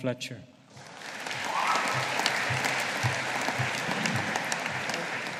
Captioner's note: audience applauding